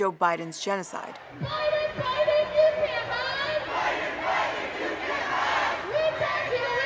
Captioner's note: chanting